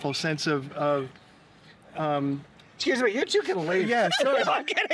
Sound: laughter

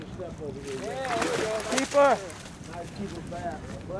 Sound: fish splashing

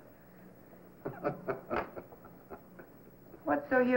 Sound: chuckling

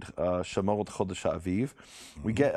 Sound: speaking in a foreign language

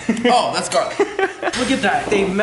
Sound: giggling

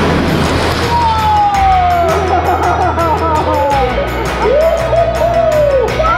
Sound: laughs; upbeat music

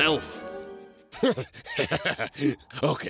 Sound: laughs

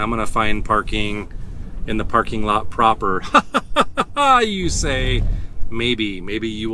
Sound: dramatic laughter

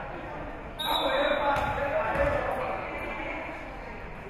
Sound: whistle being blown

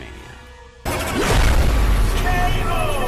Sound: bomb exploding

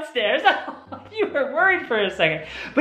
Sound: laughter

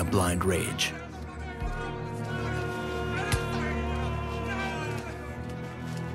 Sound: shouting and hitting noises

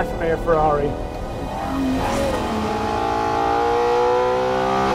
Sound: car revving

